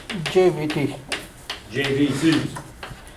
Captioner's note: voiceover